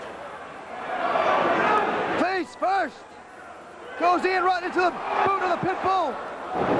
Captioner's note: crowd chatter